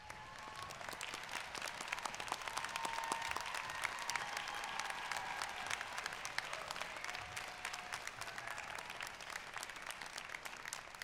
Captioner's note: cheers and applause